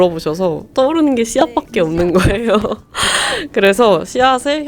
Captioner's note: laughs